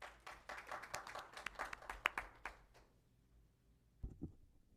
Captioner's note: applause